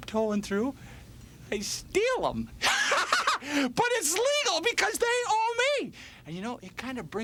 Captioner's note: laugh